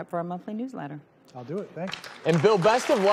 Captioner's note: audience claps